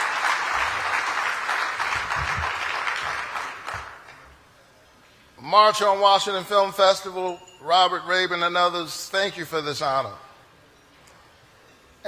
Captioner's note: cheering and applause